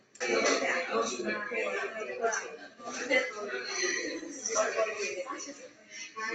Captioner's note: students speaking in the background